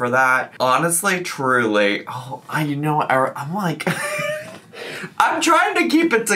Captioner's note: laughs